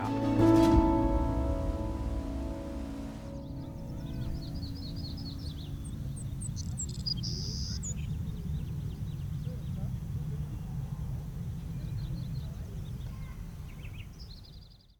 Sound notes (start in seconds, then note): 0.0 upbeat music fading; 4.1 birds chirping